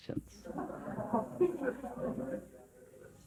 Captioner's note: laughter